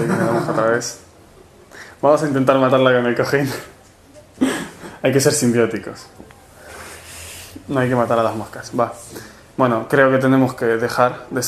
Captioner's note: laugh